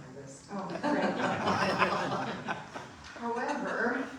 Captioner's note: audience laughing